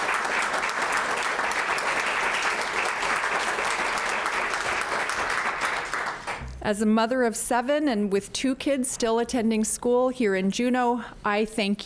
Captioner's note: applause